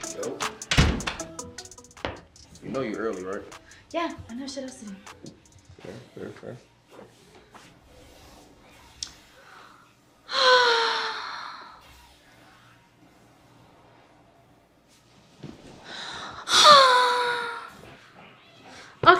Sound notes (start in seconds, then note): 0.4 door slams; 10.4 Chelsea sighs; 15.9 Chelsea sighs